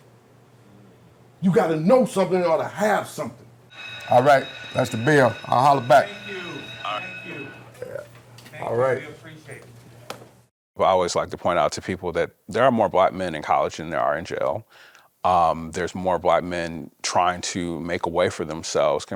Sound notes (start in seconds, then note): 3.7 bell rings